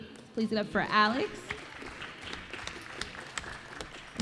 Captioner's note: applause